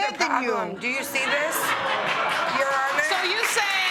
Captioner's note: laughter